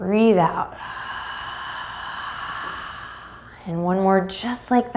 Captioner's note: deeply exhales